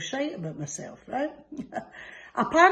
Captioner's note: laughs